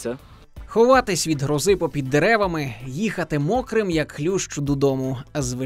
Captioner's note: voiceover